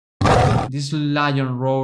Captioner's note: lion roaring